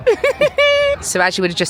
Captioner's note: giggling